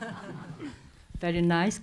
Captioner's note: laughs